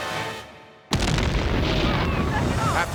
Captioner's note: dynamite explodes